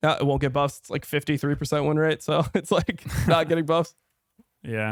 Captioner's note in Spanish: risas